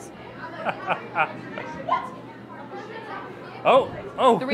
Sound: laughs

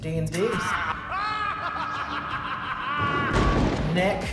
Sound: maniacal laughter

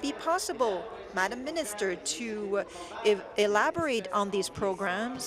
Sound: speaking in French

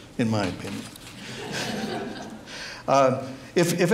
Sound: audience laughs

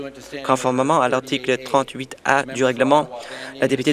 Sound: none

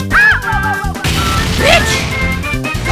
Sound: explosion

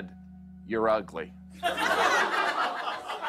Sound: laughter

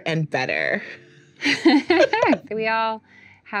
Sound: laughing

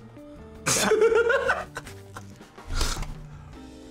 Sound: laughs

